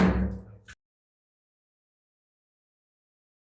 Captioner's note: gavel bang